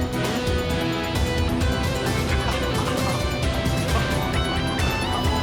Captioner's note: laughter